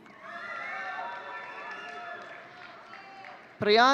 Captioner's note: audience cheering